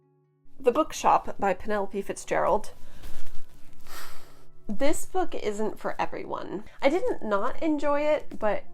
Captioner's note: heavy sigh